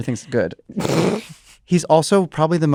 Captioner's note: laughs